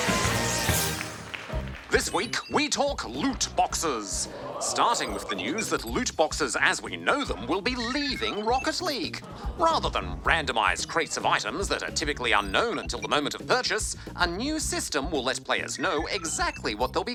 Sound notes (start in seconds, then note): 3.7 audience: oooh; 9.2 audience murmur/reaction